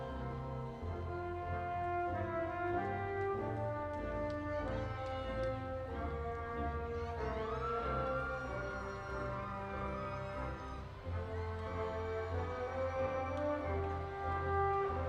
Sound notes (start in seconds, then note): 7.6 audience applauding and cheering